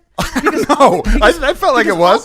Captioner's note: laughs